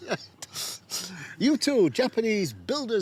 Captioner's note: both chuckle